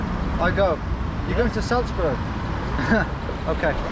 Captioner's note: chuckles